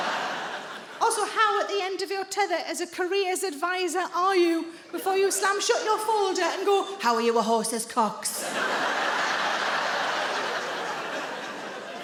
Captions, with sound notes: Also, how at the end of your tether as a careers advisor are you before you slam shut your folder and go [IN A DEEP VOICE]: "How are you with horses' cocks"?